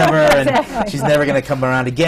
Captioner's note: laughs